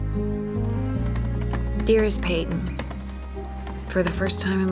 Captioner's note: typing